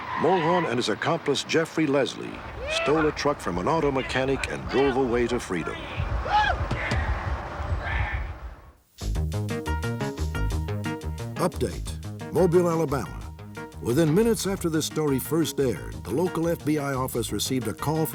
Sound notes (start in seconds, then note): 5.7 cheers; 8.6 upbeat music